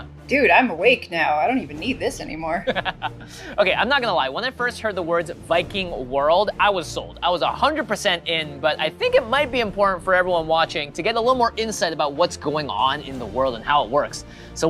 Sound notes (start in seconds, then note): 2.5 laughing